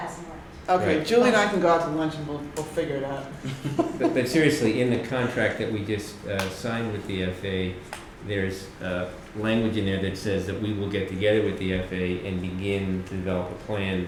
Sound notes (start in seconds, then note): 3.4 laughter